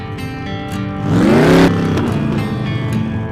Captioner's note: vrrrhhheemmmm!!!